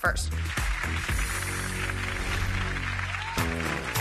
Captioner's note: clapping